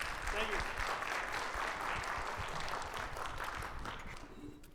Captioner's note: audience clapping